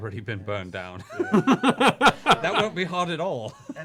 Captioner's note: laughs